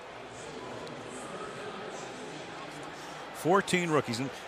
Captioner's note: pa announcement